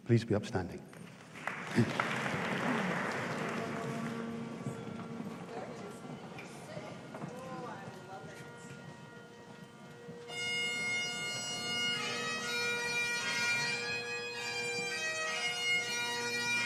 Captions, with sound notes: please be upstanding. (AUDIENCE APPLAUDING) (BAGPIPES PLAY)